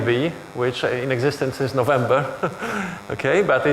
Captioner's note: chuckles